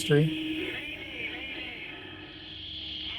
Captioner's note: man on radio